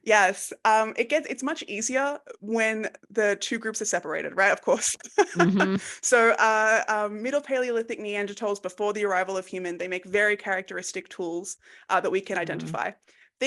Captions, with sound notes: Yes, it's much easier when the two groups are separated, right? Of course. (laughs) So Middle Paleolithic Neanderthals before the arrival of human, they make very characteristic tools that we can identify.